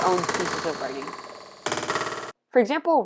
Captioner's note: banging on keyboard